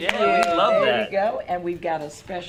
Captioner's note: cheering